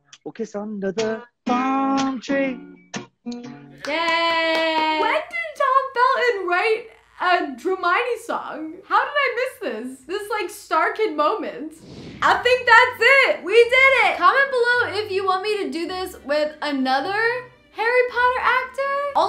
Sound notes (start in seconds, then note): 3.8 clapping